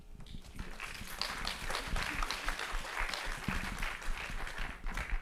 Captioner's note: audience applauding